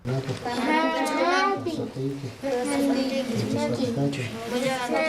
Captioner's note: non-english speech